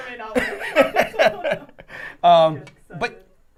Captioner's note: all laughing